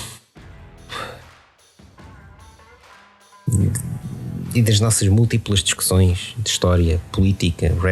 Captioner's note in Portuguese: suspiro